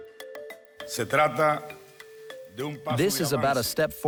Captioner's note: speaking Spanish